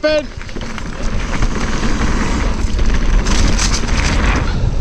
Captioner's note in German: Fahrradräder rollen